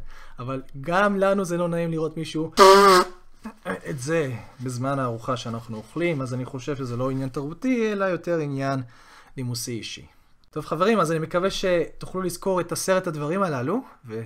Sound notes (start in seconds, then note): 2.6 blowing his or her nose